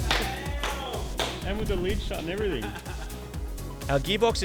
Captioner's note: laughs